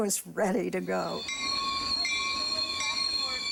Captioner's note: bell ringing